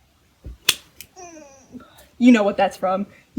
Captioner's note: clap